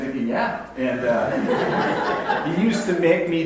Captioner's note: audience laughs